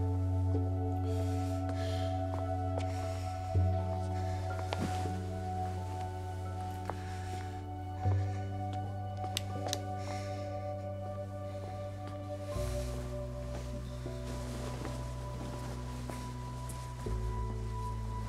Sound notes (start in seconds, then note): 1.0 heavy breathing